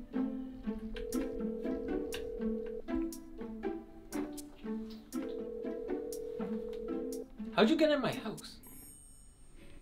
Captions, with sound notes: (outgoing phone ringing) - How’d you get in my house?